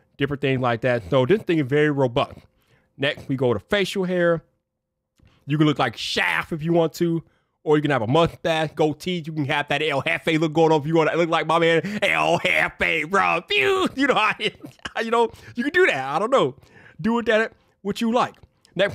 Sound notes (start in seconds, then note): 11.7 laughs